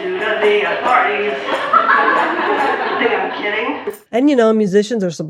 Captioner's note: audience laughter